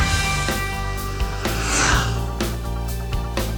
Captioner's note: motorcycle revving over music